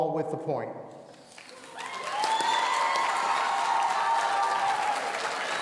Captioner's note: audience cheering